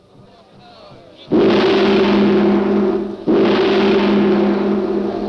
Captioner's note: gong ringing